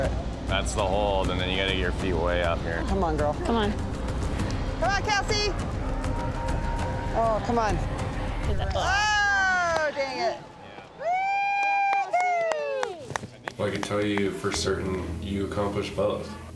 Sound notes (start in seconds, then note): 9.7 cheering loudly